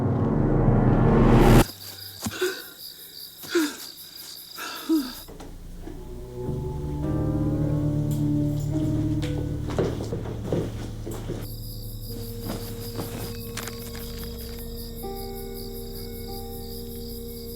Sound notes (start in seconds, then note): 2.3 Matt heavy breathing; 8.0 footsteps clicking; 15.1 dour music